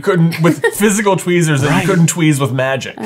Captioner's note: chuckling